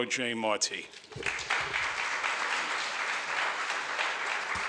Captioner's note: audience applauds